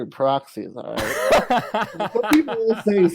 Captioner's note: laughs